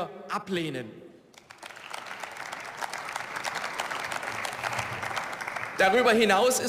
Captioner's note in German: Beifall